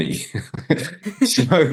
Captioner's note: laughing